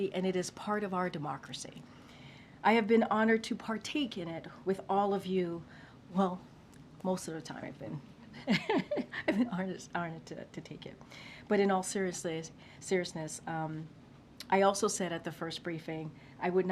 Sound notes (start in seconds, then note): 8.4 laughs